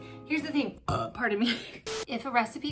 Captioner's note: burps